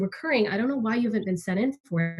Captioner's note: none